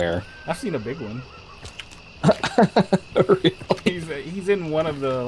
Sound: chuckles

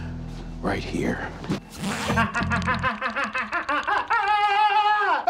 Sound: groaning loudly; pants unzip

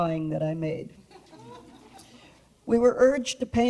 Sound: audience laughs

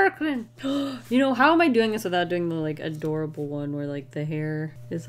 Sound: gasps

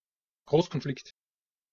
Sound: fast Pronunciation

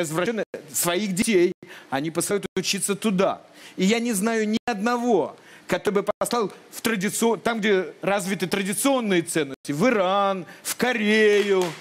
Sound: applause

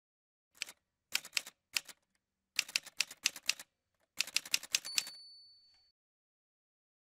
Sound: typewriter sounds

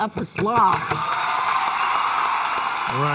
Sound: applause

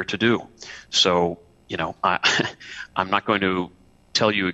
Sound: laughter

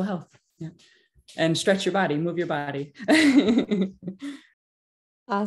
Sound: laughs

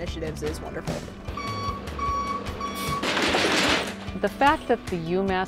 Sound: beeping of truck

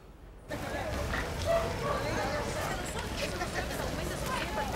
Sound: background chatter

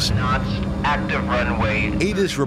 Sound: automated Voice

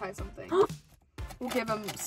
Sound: gasps

